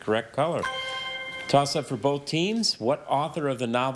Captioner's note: chime resonating